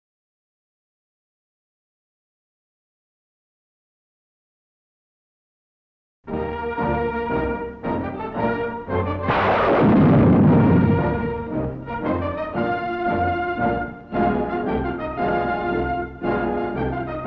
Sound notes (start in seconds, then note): 6.3 upbeat music; 9.2 guns firing